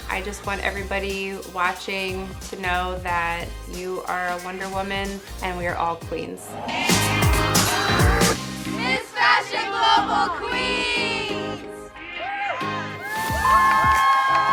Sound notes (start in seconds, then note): 12.0 all cheering